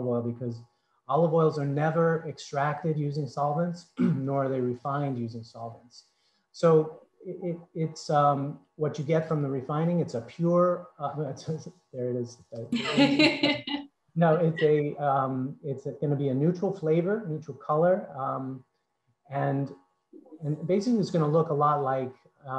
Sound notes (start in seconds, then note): 14.2 laughs